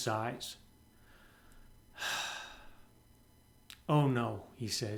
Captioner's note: sighs